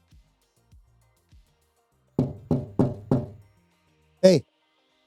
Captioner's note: knocking